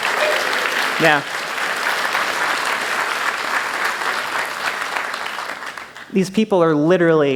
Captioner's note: applause